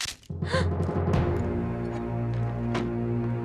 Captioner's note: gasp